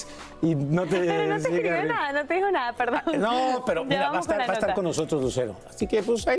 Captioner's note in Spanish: risas